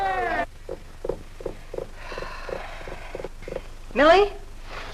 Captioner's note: Kitty drumming her fingers